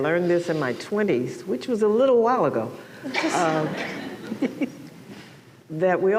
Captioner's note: laughter